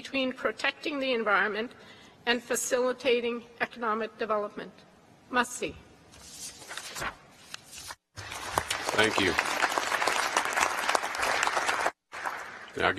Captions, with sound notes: between protecting the environment and facilitating economic development. (speaks in a foreign language) - Thank you. (applause)